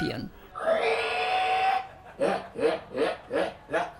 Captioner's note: hog calling